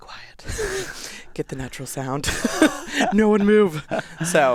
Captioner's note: laughs